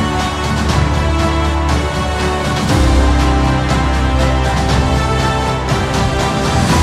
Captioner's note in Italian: Applauso